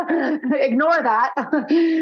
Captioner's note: laughing